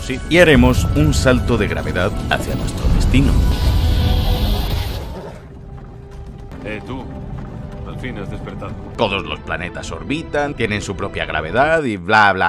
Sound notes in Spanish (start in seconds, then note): 3.4 sonido nave